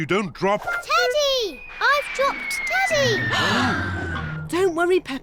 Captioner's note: all gasp